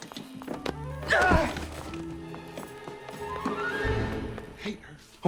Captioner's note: Homer grunts